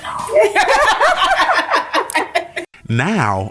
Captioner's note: laughing